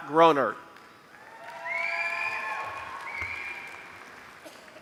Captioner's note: applause